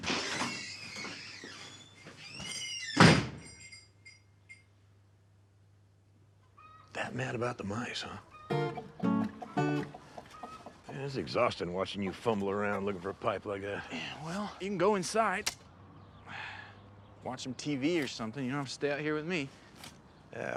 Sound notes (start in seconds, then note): 0.0 door creaking; 3.0 door thuds; 3.4 bells clanging; 8.0 chickens clucking; 8.6 upbeat music; 16.2 sighs